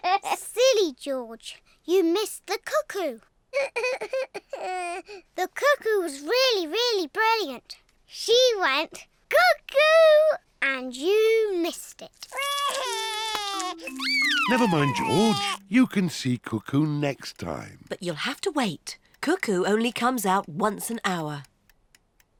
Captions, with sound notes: Silly George! You missed the cuckoo! -(SOBS) -The cuckoo was really, really brilliant. She went, "Cuckoo!" and you missed it. -(SOBS) -Never mind, George. You can see cuckoo next time. But you'll have to wait. Cuckoo only comes out once an hour.